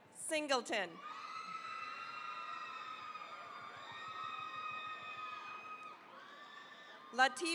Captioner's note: cheering, applause